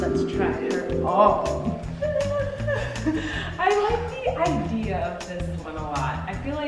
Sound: laughs

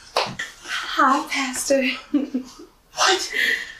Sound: giggle

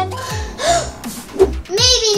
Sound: gasping

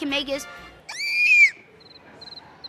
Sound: squealing

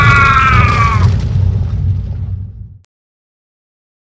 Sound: crumbling rocks

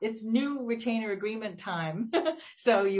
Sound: laughs

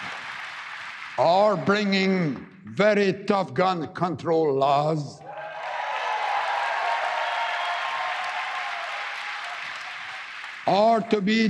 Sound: applause

